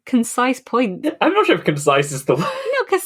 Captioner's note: laughing